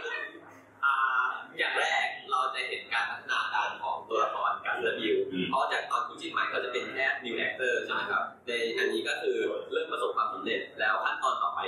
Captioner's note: answering in Thai